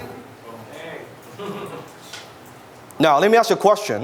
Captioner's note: audience laughs